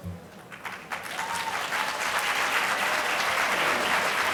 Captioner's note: applause